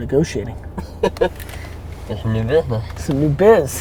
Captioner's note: laughs